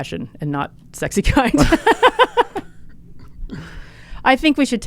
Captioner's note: both laughing